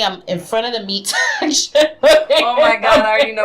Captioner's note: laughs